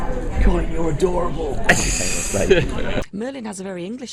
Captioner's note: laughs